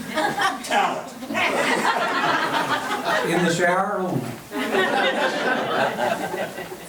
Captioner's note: members laughing